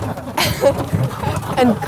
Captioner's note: giggles